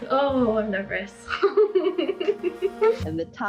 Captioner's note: chuckling